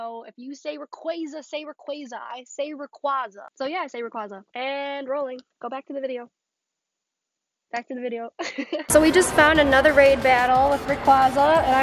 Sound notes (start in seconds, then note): 8.4 laughing